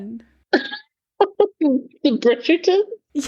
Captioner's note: laughs